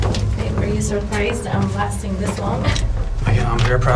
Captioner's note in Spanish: ríe